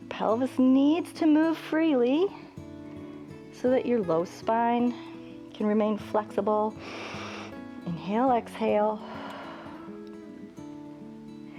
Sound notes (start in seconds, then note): 6.8 inhales; 9.4 exhales